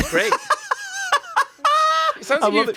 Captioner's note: laughs